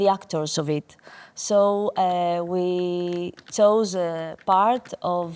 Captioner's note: tap dancing